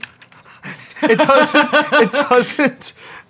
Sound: laughs

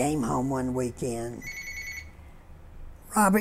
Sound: phone ringing

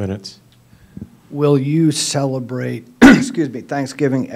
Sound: clears throat

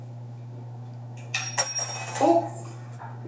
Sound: metal clinking

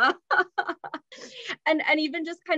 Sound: chuckles

